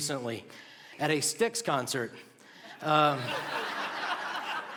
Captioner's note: laughter